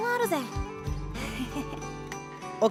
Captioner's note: self-aware laugh